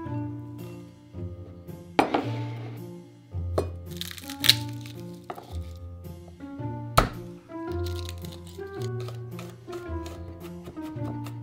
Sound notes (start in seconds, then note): 4.0 garlic paper rustling; 7.8 smash